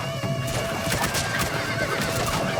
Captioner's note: horses neighing